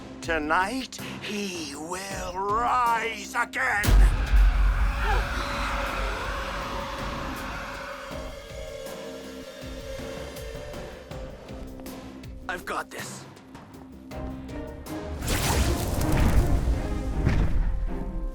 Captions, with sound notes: Tonight, he will rise again! [Dragon-marked roaring] [suspense music] I’ve got this. [magical buzzing]